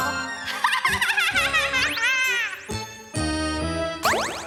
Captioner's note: cackling